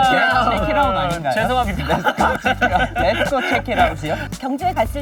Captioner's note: laughs